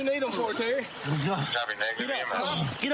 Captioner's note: panting